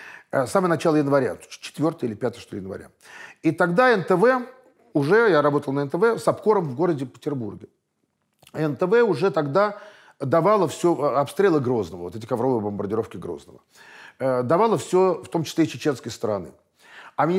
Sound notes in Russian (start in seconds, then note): none